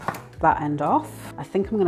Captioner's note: chopping thunk